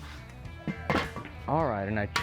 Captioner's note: metal clangs